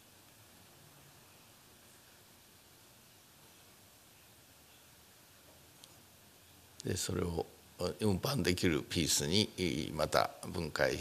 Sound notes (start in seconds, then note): 6.9 speaking japanese